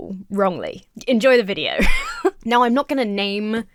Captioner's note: laughs